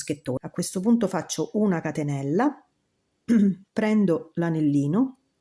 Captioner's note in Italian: schiarire la voce